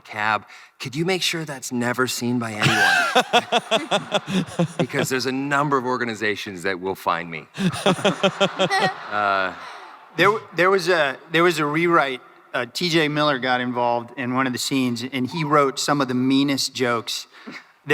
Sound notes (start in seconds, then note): 2.6 crowd laughing; 7.6 crowd laughing